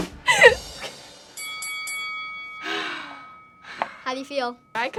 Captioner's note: laughs; bell ringing